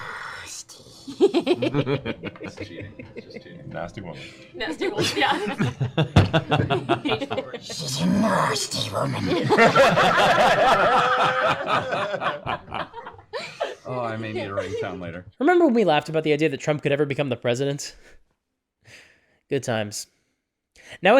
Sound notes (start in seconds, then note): 0.9 Gollum voice; 7.9 Gollum voice; 9.2 laughter